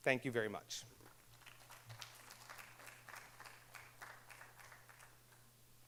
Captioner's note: audience applauding